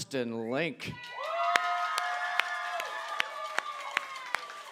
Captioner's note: applause